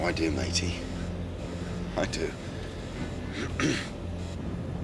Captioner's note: clears Throat